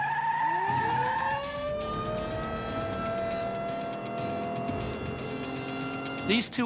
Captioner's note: screeching; siren blares